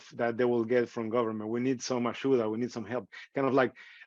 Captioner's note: speaking in foreign language